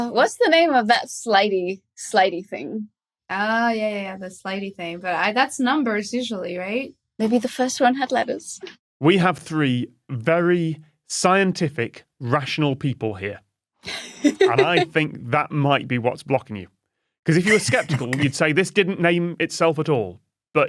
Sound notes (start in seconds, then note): 13.9 giggles